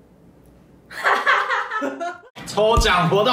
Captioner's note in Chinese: 爽朗的笑聲